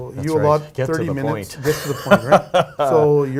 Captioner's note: laughing